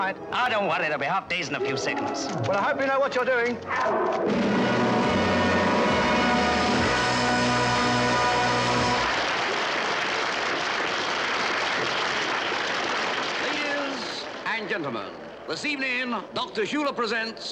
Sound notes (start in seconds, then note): 8.1 audience applauds